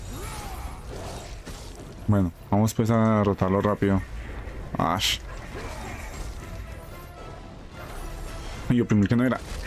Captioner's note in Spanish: grito